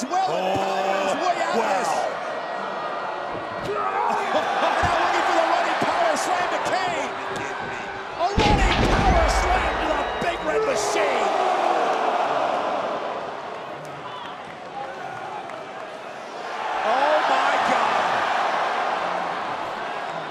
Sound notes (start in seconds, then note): 3.6 crowd cheering; 5.5 announcer speaking faintly off mic; 8.4 body thudding; 10.8 crowd roaring; 18.0 crowd cheering